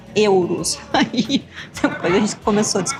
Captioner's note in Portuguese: risadas